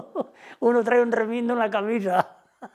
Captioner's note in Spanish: risas